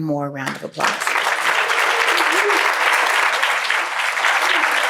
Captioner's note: applause